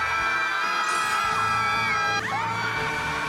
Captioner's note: high pitch fairy's shout